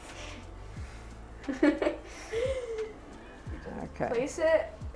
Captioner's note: laughing